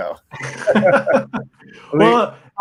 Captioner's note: both chuckles